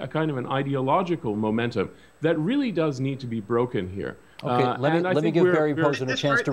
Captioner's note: mixed voices